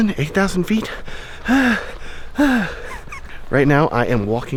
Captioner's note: breathing heavily